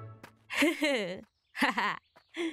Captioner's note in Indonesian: suara tawa